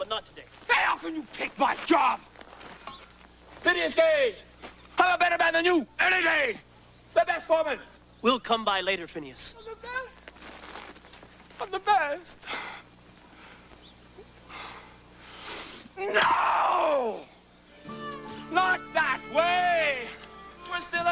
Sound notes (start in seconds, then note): 11.9 crying